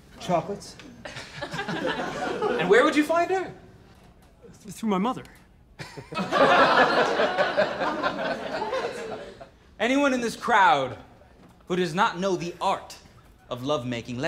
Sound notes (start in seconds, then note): 1.0 laughter; 5.8 laughter